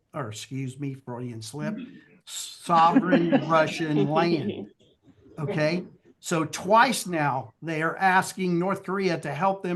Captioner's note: laughter